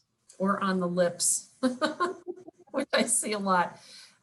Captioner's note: chuckles